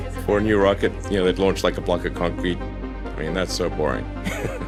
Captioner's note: laughs